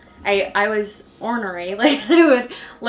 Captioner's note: laughs